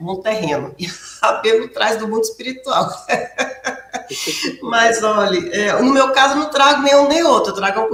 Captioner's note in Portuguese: risadas